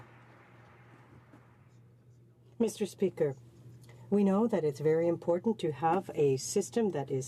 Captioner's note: some Applause